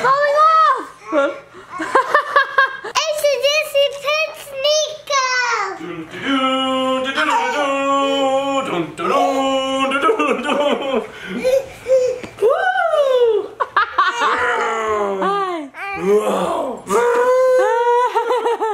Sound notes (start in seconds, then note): 1.0 laughs; 3.2 mumbles; 13.2 laughs loudly